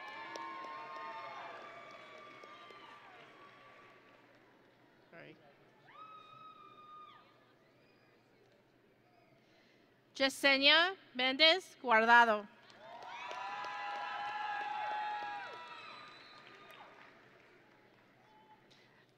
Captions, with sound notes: (audience and graduates cheering) Jesenia Mendez Guardado. (audience and graduates cheering)